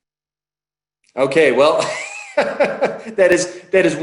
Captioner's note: laughs